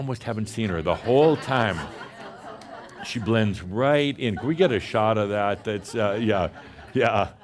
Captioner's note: laughter